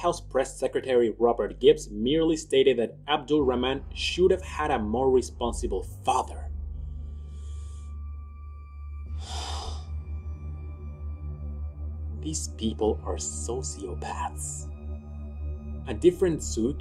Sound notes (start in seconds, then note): 9.1 sigh